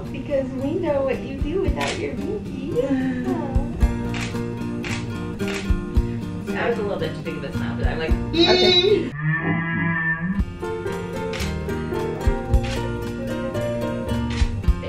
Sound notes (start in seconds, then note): 4.8 camera clicks; 9.3 warped voice; 11.2 camera clicks